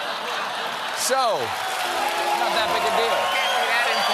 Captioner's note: laughter; cheers and applause; piano riff